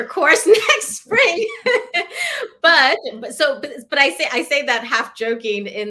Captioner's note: laughter